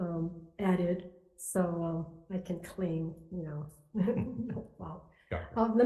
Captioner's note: chuckling